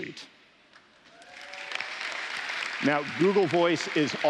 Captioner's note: applause